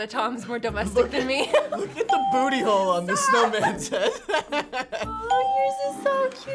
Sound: laughs

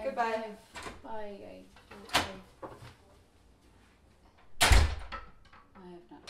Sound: door closing

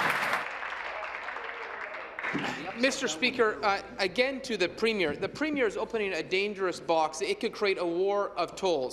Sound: applause

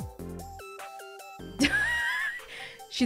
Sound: chuckles

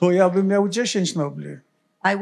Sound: foreign language

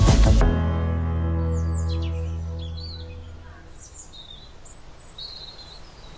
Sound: wind blowing, birds chirping

